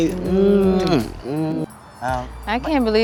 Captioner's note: kissing